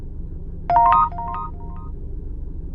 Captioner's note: text sound